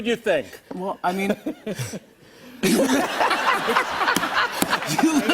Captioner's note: laughter